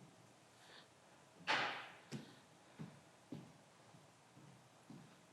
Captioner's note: footsteps approaching